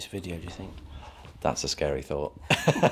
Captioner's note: laughs